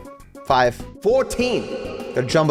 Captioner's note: voice echoes